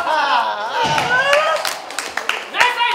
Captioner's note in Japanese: 拍手